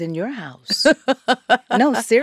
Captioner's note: laughs